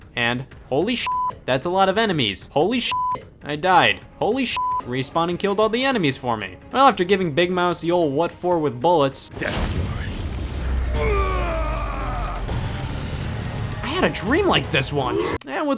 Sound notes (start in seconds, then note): 1.0 beep; 2.9 beep; 4.6 beep; 10.8 Big Mouse screams